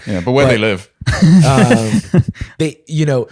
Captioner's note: laughter